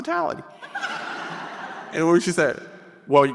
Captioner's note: audience laughing